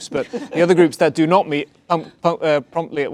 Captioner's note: laughter